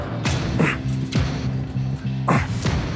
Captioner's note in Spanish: Quejidos